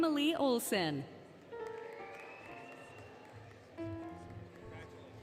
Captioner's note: applause, Cheering, Music